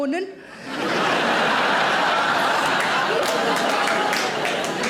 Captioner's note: audience laughing